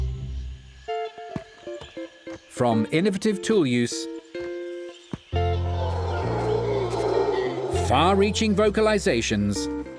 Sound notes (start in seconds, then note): 5.5 howler monkey call